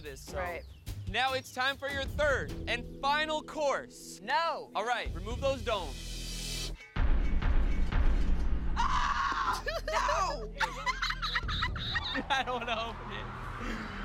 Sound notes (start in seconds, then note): 9.2 laughing